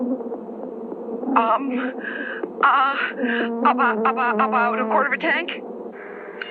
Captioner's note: stuttering